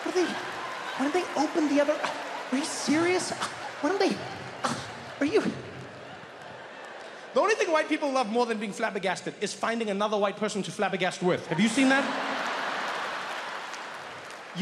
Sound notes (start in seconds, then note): 2.2 Trevor scoffs; 11.5 audience laughs and applauds